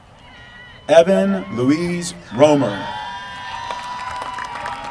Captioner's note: applause